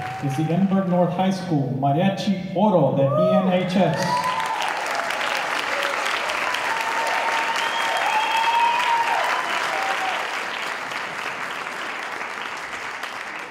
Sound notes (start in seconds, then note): 3.9 applause